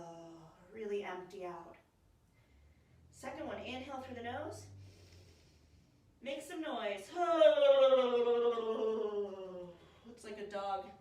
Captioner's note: shaking audible exhale